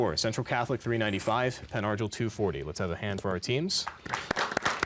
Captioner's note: applause